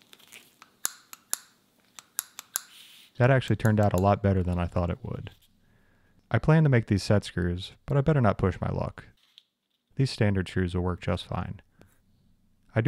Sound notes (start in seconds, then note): 2.0 metal clicking